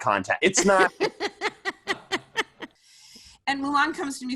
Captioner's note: laughing